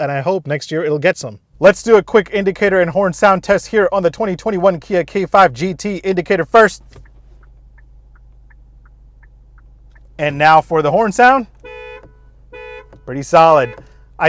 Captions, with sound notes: And I hope next year it'll get some, let's do a quick indicator and horn sound test here on the 2021 Kia K5 GT indicator first (car indicator beeps) and now for the horn sound (car horn blares) pretty solid.